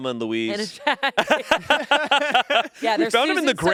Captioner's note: group laughing